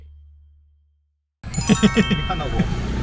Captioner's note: laughter